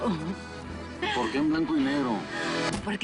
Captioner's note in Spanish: Ríe